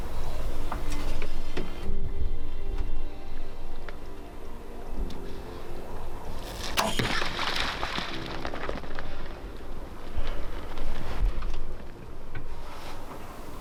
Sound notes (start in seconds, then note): 6.3 water sploshes; 6.4 arrow whizzes